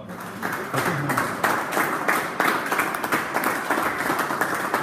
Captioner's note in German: Applaus